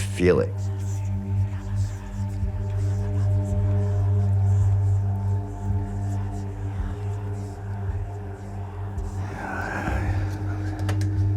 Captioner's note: whisper